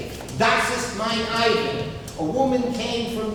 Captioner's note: speaking German